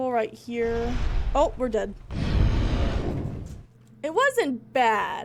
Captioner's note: growling